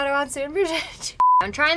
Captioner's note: laughing